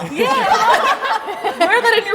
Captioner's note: everybody laughs